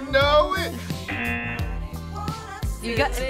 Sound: buzzer buzzing

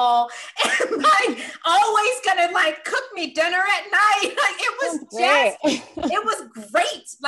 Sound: laugh

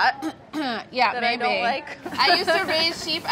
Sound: clears throat

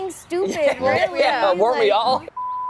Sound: all laughing

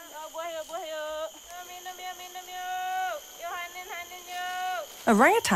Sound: speaking in foreign language

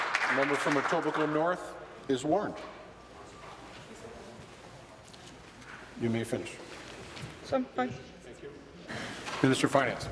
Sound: applause

